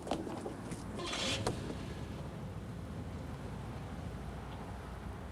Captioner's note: car engines revving